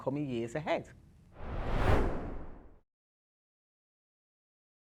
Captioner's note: screen swooshing